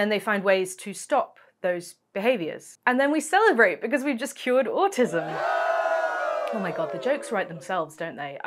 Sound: cheering souds

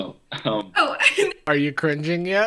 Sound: laughs

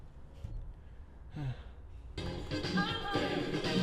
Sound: sigh

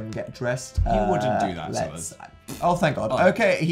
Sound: blows raspberry

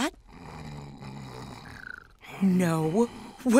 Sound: snoring

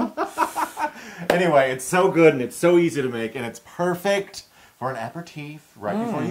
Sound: laugh

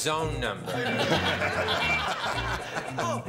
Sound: laughter

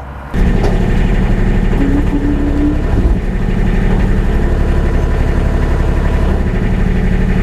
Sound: machine starts

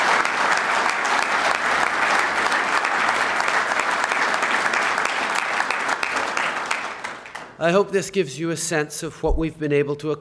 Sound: applause

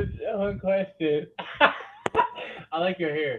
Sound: laughs

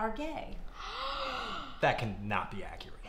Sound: gasps

